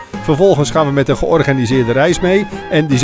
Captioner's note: voiceover